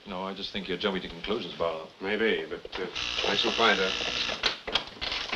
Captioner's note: door buzzer